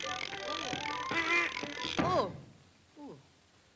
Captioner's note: meat grinder clicking; playful music; meat grinder clicking; duck quacking; thuds